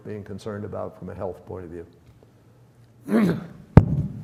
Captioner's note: clears throat